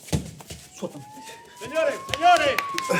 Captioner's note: punching; police Siren; clapping